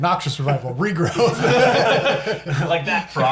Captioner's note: all laugh